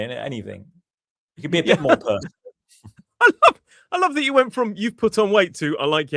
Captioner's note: laughter